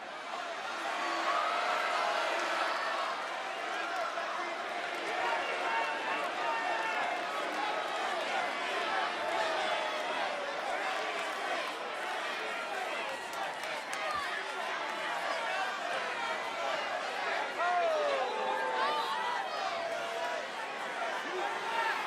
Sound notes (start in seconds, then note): 6.4 applause